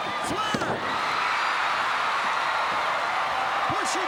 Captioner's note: crowd cheering